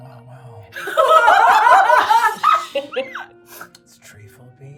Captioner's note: everyone laughing